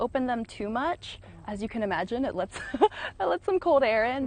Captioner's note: laughs